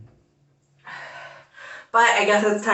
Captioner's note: exhales